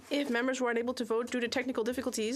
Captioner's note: speaking FRENCH